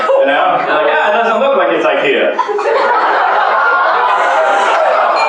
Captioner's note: laughter